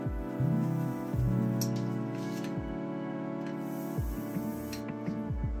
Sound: brayer rattles, ink crackles

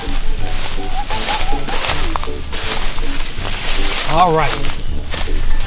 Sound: Peppa laughing

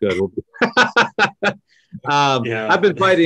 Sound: laughs loudly

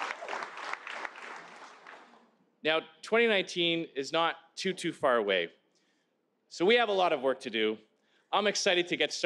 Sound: applause

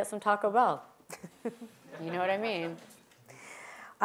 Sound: laugh

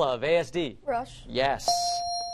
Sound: ding

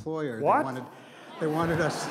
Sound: laughter

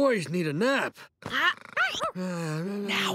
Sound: snoring

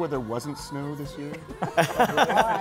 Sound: laughter

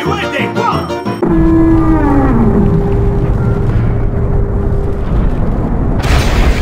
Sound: elevator noise

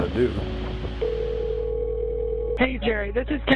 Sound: phone ringing

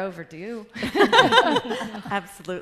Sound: laughter

